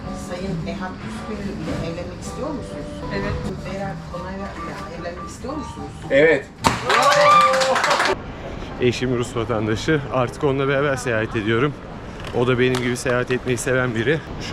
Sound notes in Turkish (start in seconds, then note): 6.7 alkiş